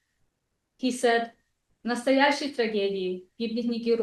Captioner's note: non-english speech